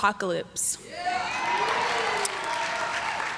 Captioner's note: cheers